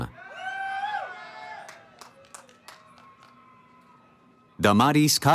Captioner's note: cheering